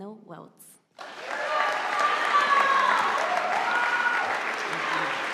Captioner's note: audience applauding